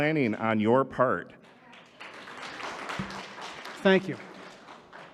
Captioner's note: audience applauding